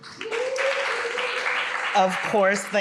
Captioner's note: audience clapping